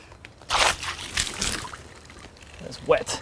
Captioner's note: water splashing